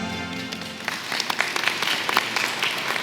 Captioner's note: applause